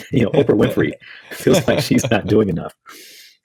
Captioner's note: laughs